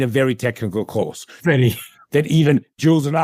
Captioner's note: laugh